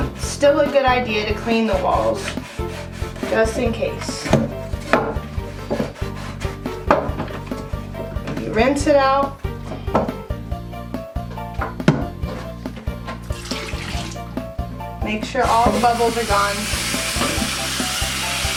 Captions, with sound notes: But, It's still a good idea to clean the walls just in case. [Bumping of plastic container] [Scrubbing] Rinse it out [Water dripping] Make sure all the bubbles are gone.